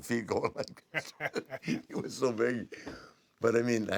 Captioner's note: laugh